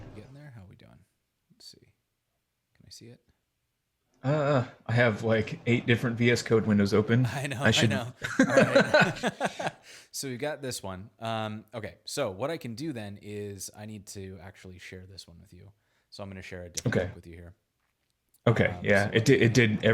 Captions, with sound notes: Getting there? How we doing? Let's see. Can you see it? - I have like eight different VS Code windows open. - I know, I know, right. (both laughing) We got this one. Okay. What I can do then is, I need to actually share this one with you. I'm gonna share a, - Okay. - with you here. - Okay, yeah.